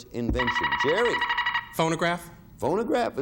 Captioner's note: buzzer beeping